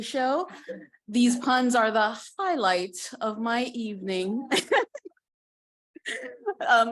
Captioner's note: laughing